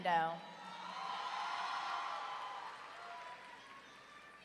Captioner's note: audience cheering